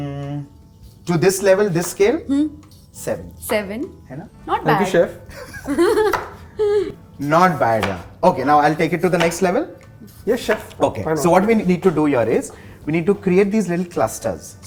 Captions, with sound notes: To this level, this scale - 7! 7 ? - Right? Not bad. - Thank you chef [Giggles] Not bad yea, okay now I will take it to the next level Yes chef why not? - Ok, so what we need to do here is.. we need to create these little clusters